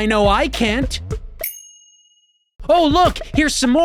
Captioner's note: bell dings